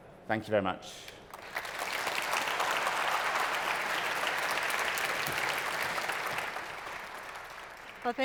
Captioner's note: applause